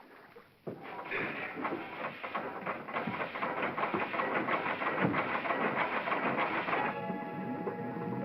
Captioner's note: engine whirrs & clatters; bubbling & churning sound